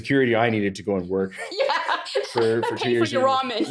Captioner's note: laughs